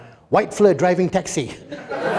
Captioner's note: laughter